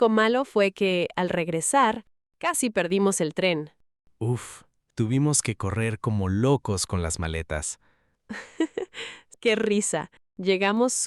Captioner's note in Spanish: risas